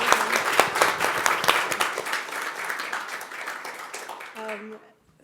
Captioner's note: applause